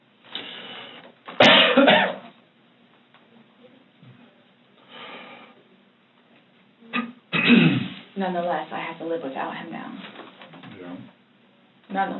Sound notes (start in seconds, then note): 1.3 coughs, clears throat; 7.3 clears throat